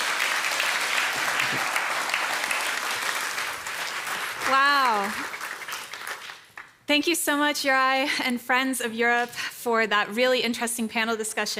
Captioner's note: applause